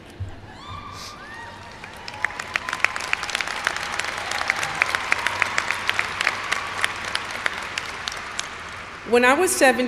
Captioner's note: applause